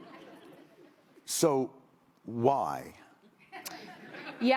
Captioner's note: laughter